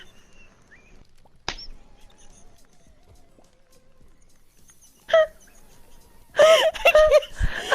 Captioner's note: both wheeze laughing